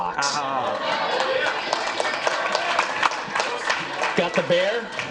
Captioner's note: audience applauds